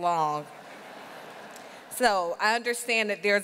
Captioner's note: audience laughing